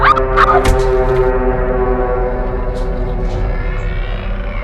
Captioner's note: screaming